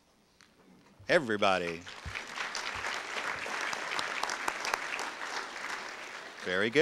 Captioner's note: audience applause